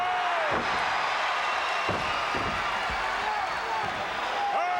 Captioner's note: crowd cheers